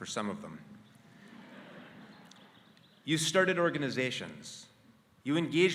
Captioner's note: laugh